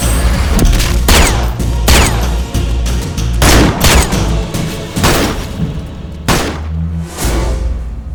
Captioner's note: gunshot